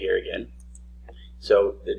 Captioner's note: mouse click